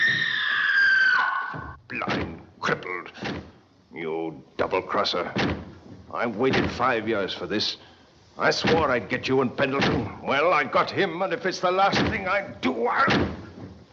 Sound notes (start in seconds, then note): 2.0 pounding Door